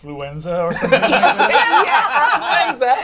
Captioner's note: all laugh